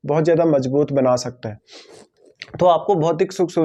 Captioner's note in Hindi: नाक से की जाने वाली आवाज़